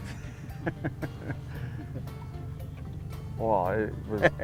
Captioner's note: laughter